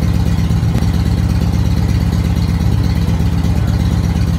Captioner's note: engine idling